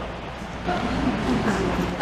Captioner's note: murmuring